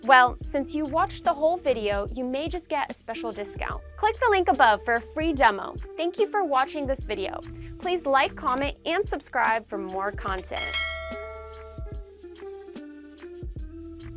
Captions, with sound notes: Well, since you watched the whole video, you may just get a special discount. Click the link above for a free demo. Thank you for watching this video. Please like, comment, and subscribe for more content. (bell dinging) (calm music)